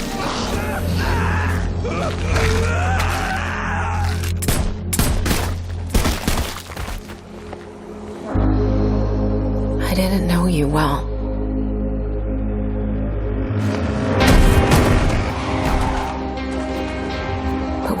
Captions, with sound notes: [man screaming] I didn't know you well.